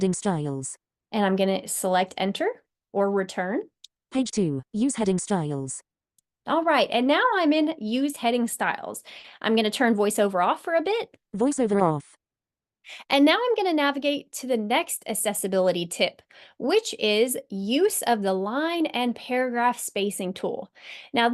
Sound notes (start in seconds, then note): 11.0 voiceover